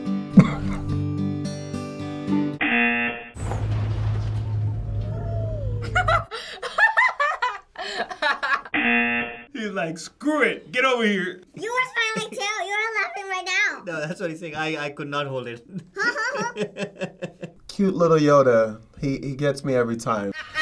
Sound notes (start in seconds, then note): 0.4 laughs; 2.6 buzzer rings; 5.2 laughs; 8.7 buzzer rings; 15.8 laughs